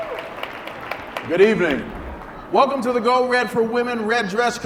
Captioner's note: cheering